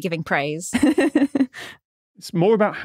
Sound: giggles

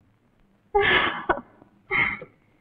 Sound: sighs

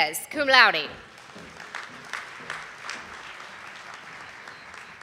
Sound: audience applauding

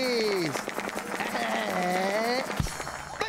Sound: drum roll, applause

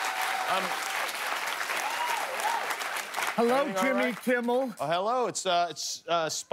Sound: cheers and applause

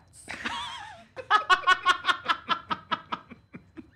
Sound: laughing

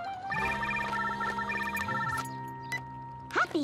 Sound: cell phone rings

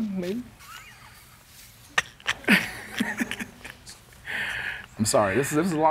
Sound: laughs

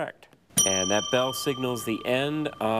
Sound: bell dings

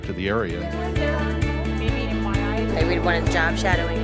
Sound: participants conversing

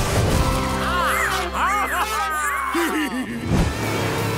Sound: cheering

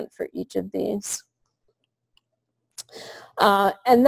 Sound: pause

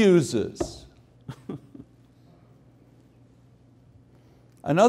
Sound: chuckling

